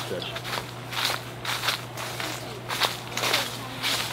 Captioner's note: leaves crunching